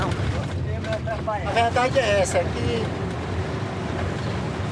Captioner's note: Portuguese spoken audio